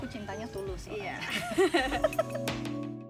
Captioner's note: laugh